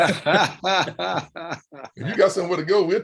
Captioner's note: men laugh